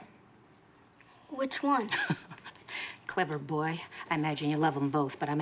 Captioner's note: laughs